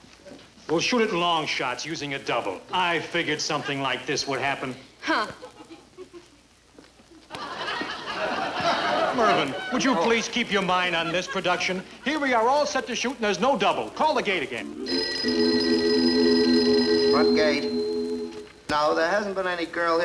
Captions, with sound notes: We'll shoot it in long shots using a double. I figured something like this would happen! - Huh! (audience laughing) - Mervin, would you please- - Oh! - Keep your mind on this production? Here we are all set to shoot and there's no double! Call the gate again. (phone ringing) - Front gate. No, there hasn't been any girl here